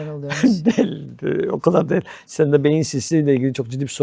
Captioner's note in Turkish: kahkaha